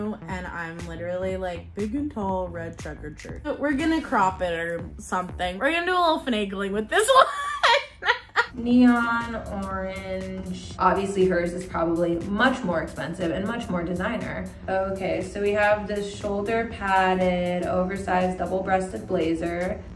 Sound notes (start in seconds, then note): 7.2 laughter